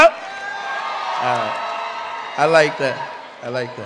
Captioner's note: cheering